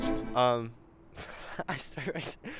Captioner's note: laughs